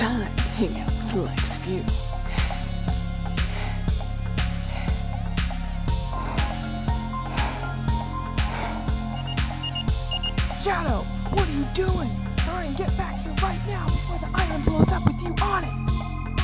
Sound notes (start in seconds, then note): 2.6 panting; 5.9 panting; 9.1 beeping